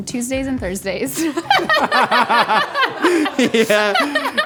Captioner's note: laughing